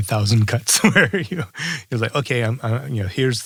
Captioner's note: laugh